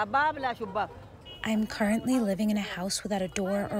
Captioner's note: through translator